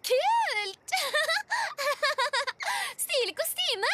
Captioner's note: laughs